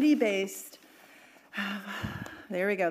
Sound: sighing

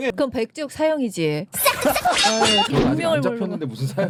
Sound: laughs

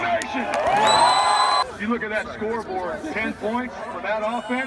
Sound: applause

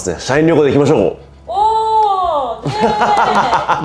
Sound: cheers

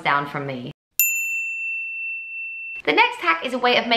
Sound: bell dinging

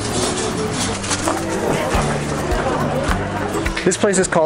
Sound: people chattering

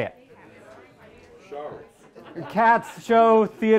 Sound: audience chattering indistinctly

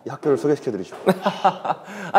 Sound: boisterous laughter

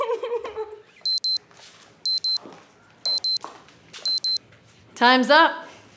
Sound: timer dings

